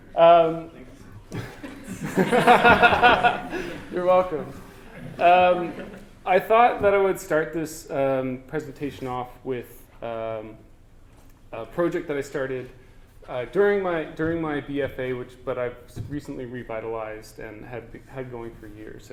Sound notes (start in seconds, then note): 4.0 laughter